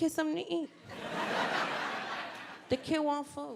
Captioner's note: audience laughing